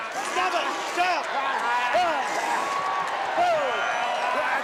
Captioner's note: wrestlers grunting